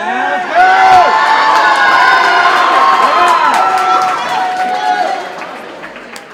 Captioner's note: audience cheering and applauding